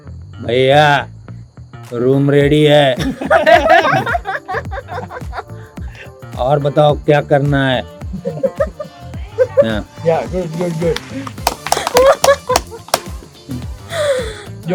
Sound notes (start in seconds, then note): 3.0 laughs